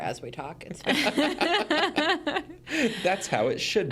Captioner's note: hosts laughing